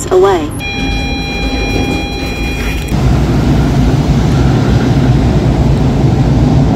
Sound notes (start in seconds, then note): 0.4 elevator bell